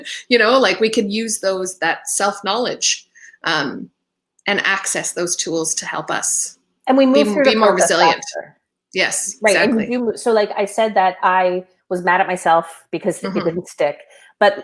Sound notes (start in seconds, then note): 8.0 voice muffled